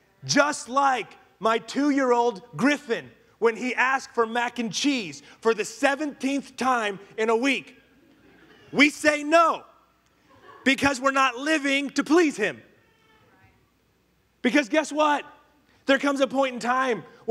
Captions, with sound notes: Just like my two year old Griffin, when he asks for mac and cheese, for the 17th time in a week. (congregation laughing) We say no, because we're not living to please him. Because guess what, there comes a point in time